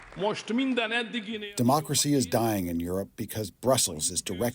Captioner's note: through translator